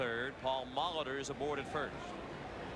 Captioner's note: none